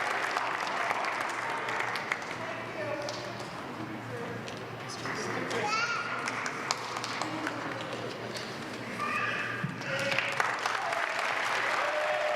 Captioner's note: applause